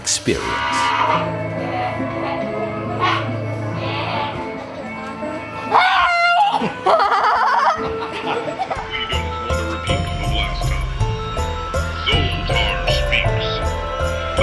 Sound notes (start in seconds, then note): 3.6 spooky music; 3.7 scream; 4.6 frenzied laughing